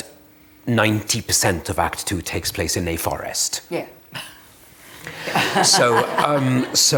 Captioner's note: laughter